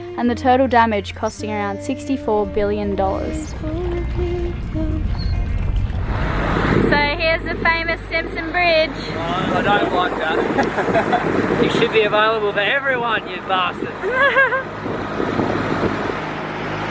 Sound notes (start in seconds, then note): 14.0 giggles